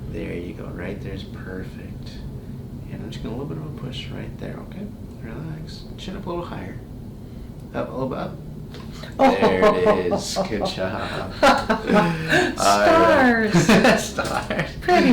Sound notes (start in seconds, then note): 8.5 neck cracks; 9.0 laughs